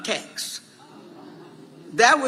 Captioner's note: audience reacting appreciatively